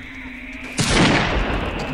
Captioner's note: gunshot